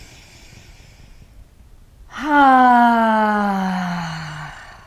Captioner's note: sighing deeply